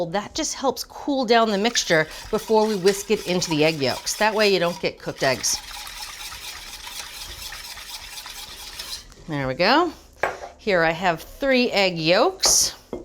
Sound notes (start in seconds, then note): 5.9 whisk rotating